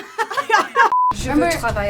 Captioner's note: laugh